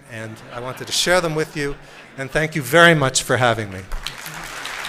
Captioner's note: applause